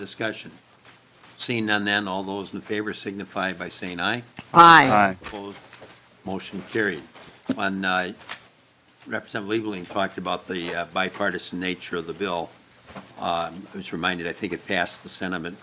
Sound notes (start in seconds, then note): 8.4 chorus of ayes